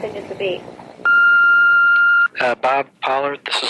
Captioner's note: beep